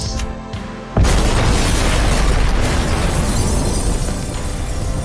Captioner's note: clock ticking faster then slower; explosion